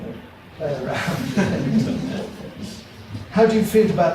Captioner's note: audience laughs